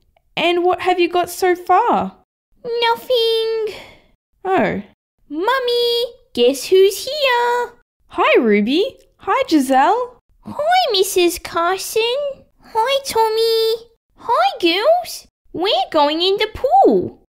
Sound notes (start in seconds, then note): none